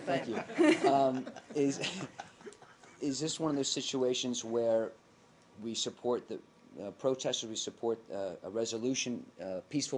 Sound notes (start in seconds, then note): 0.1 laughter